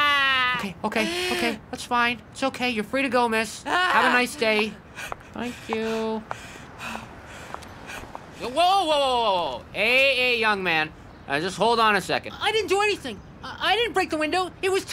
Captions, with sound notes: Okay, okay, okay, that's fine. It's okay. You're free to go, miss. Have a nice day. Thank you. (Panting) Whoa, whoa, whoa, whoa, whoa, whoa, whoa! Hey, hey, young man, uhh, just hold on a second. I didn't do anything! I didn't break the window! It was Timmy!